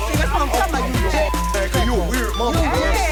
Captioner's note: beeping